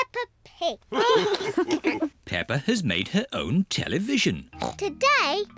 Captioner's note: all laugh